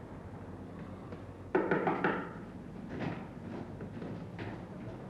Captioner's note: knocking on door